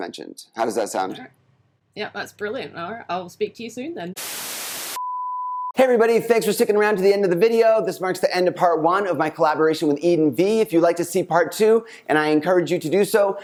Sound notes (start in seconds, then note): 4.1 static hissing; 4.9 electronic beep